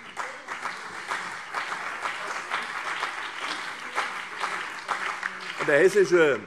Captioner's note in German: Beifall CDU und BÜNDNIS 90/DIE GRÜNEN